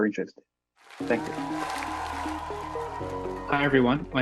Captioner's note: applause